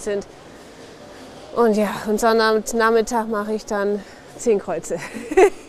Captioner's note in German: lacht